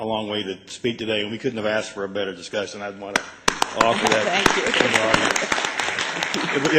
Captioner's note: applause